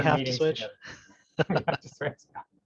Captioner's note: laughs